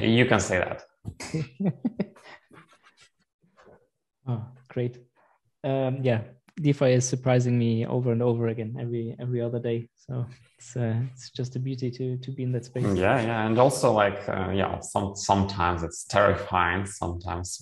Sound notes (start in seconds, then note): 1.2 laughs